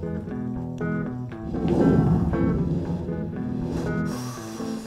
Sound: heavy blowing

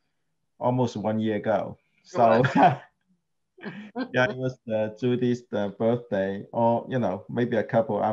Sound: laughs

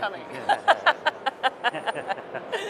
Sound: chuckles

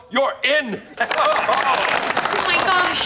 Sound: clapping

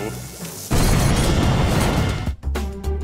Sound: explosion

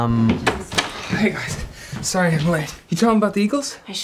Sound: door opens

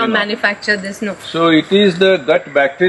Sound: laughs

